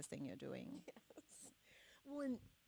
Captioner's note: laughs